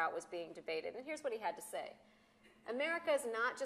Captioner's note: none